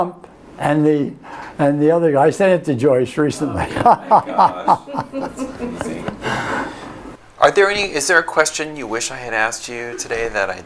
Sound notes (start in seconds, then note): 3.4 laughs